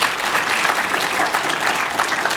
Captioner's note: applause